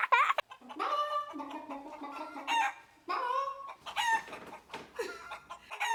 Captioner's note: squawking; chicken squawking; laughing